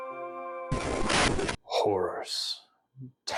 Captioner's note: radio static